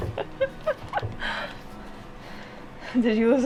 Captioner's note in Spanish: riendo